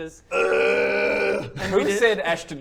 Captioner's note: groan